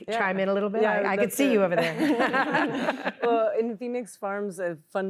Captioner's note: laughter